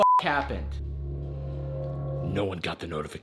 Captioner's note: beeps